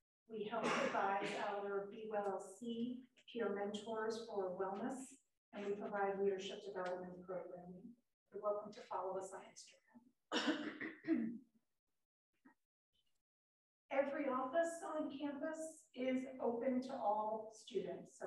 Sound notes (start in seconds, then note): 10.3 student clearing throat